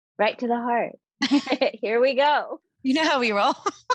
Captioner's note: chuckling; both chuckling